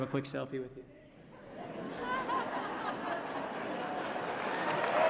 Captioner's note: laughter; applause & Cheering